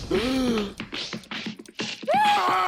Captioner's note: gasp; smacking, punching noises; screams